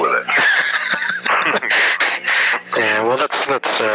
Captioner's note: laughs